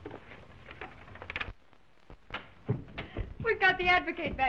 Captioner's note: phone thuds